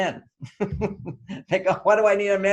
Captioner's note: laughs